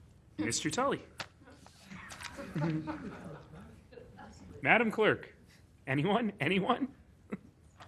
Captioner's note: laughing